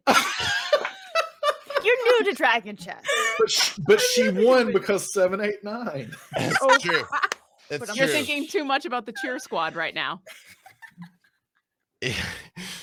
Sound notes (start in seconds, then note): 0.0 laughing; 6.0 laughs loudly